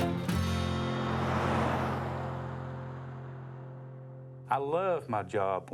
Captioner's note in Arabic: هدير محرك السيارة